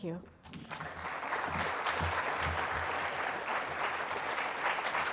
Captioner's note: applause